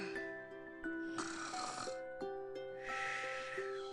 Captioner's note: softly snores